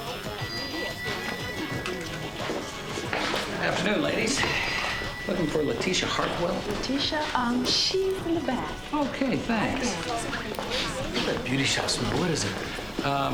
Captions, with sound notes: (hip hop music playing) Afternoon, ladies. Looking for Lateesha Hartwell. - Lateesha? Um, she's in the back. - Okay. Thanks. (sniffing) - I love that beauty shop smell. What is it?